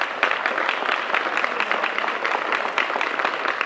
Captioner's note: applause